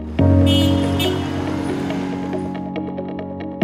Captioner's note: horn beeping